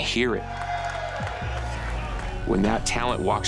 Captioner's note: crowd cheering